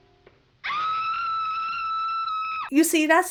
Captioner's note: Frankenstein's bride screams